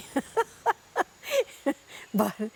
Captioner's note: laughs